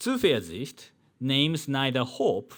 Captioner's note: man speaking in foreign language